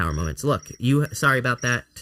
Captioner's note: cellphone plays chirping ringtone